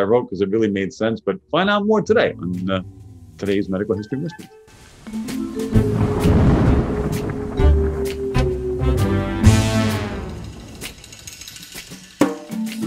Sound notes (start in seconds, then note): 5.4 mysterious jazz music; 5.6 thunder crashing